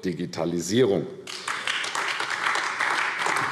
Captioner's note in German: Beifall AfD